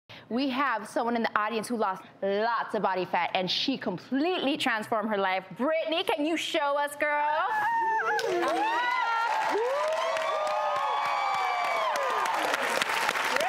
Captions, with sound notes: We have someone in the audience who lost lots of body fat and she completely transformed her life, Brittney, can you show us girl? (audience applauds and cheers)